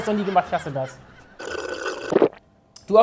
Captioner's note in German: Schlürfen